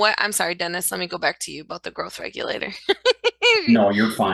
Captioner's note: laughs